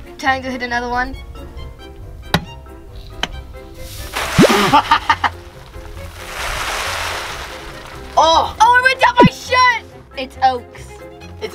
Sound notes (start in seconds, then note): 2.3 button clacking; 3.8 oats scattering; 4.2 laughing